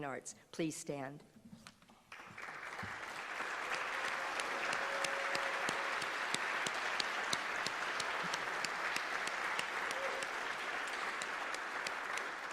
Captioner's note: applause